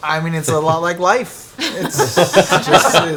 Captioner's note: all laugh